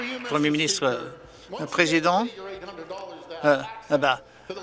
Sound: some Applause

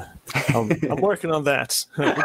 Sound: laughing

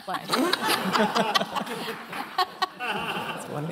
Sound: laughter

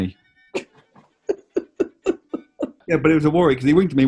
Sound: giggling

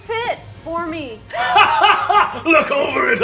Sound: laughing

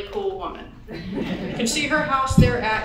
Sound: audience chuckles

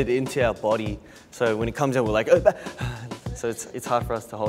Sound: sighs

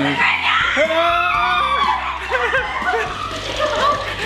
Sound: screaming

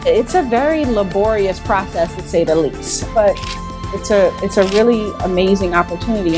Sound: shutter clicks

